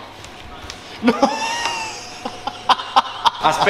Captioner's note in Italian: Laughs in pasta language